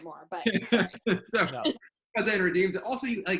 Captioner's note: laughs